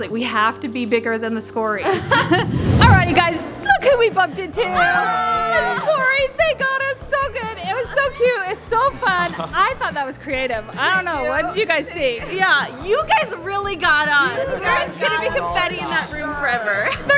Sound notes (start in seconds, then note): 1.8 laughs; 4.6 group exclaims; 16.6 laughs